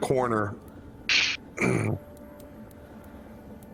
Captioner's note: satisfied grunt